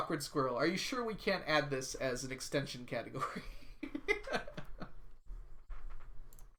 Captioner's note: laughs